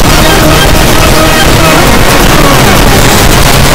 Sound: that was a loud noise

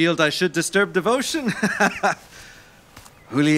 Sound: laughing

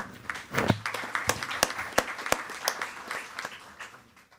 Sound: attendees clapping

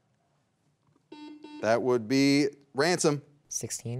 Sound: buzzer beeps twice

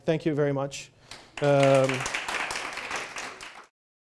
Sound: applause

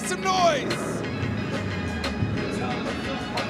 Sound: engine rumbling; mellow hiphop music

